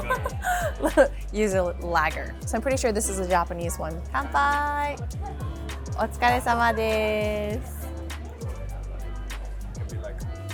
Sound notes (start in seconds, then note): 0.0 laughs; 4.9 speaks in foreign language; 7.8 chill music